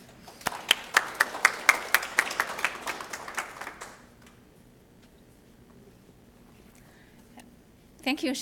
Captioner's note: applause